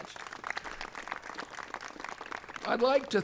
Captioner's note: applause